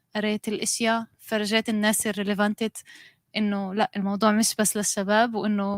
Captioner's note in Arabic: لغة أجنبية